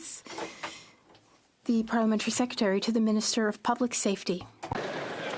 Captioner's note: speaking French